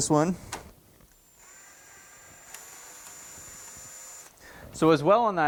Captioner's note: drill whirling